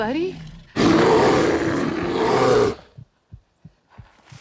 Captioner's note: bear growls